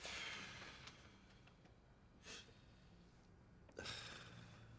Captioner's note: Gordon sighs